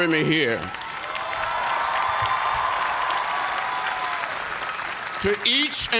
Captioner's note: cheers and applause